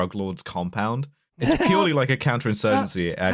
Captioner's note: laughter